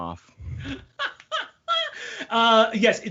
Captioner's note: laughing